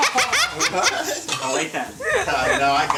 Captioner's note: all laugh